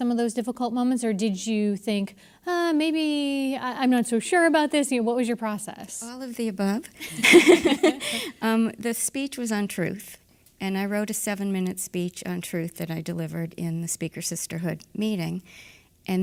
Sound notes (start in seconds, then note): 7.0 laughter